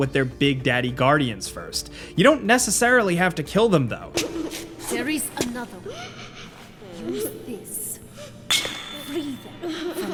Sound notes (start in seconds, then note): 5.7 girl whimpering; 9.0 jar shattering